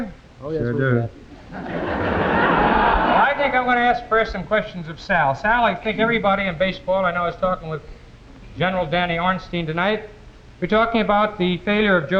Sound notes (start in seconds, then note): 1.2 audience laughing